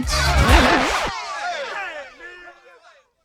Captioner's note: record scratch